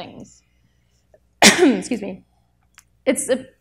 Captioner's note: coughs